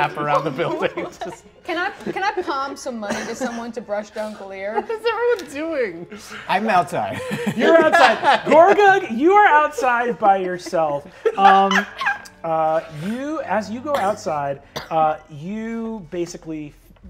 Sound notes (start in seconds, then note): 7.0 laughs; 11.5 players laughing